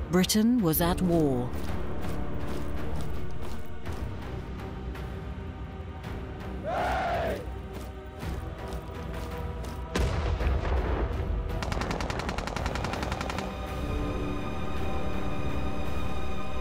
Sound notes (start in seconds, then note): 2.2 tense music continues; 11.4 guns firing